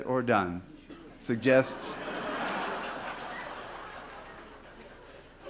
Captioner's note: laughter